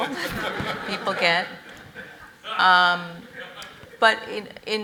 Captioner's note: audience laughs